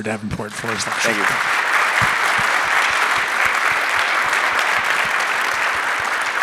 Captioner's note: audience applauding